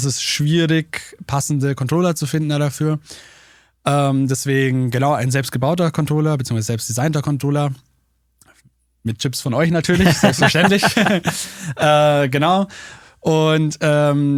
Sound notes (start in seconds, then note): 9.9 alle lachen